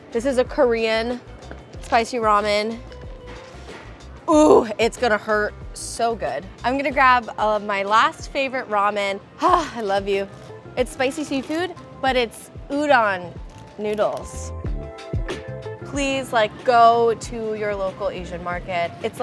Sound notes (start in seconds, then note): 9.4 sighing; 13.3 ambient music